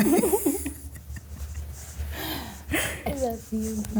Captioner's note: laughing